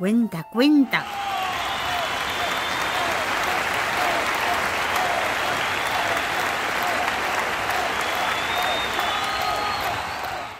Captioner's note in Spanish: Aplausos